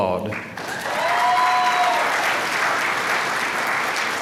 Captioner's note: applause